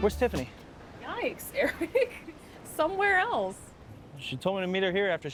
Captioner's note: laughs